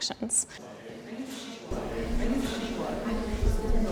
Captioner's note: background chatter